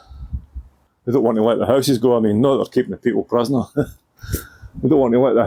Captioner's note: chuckle